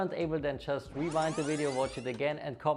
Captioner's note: tape rewinds